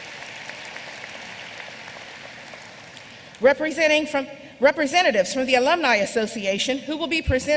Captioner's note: applause